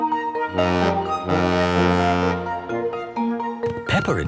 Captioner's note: boat horn honking